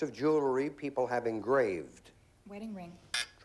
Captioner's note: buzz buzz